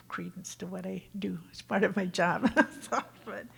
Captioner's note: laughs